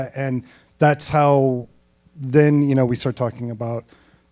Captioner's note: none